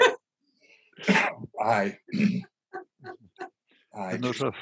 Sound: laughter

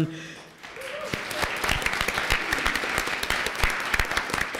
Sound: applause

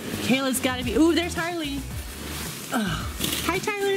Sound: gasps

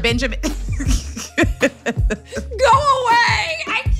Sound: laughs

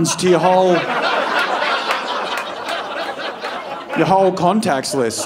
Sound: audience laughing

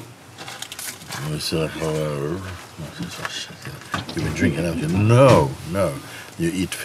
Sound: mimics drunken slurring

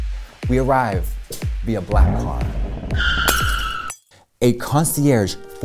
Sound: engine revs, tires screech

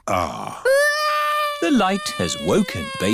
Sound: crying

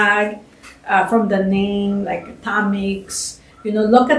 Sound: non-english

